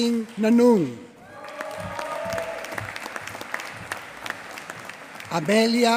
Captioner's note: applause